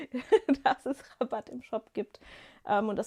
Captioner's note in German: gelächter